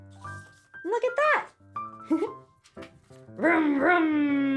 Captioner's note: giggles